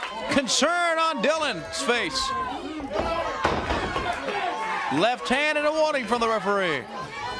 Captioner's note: crowd cheering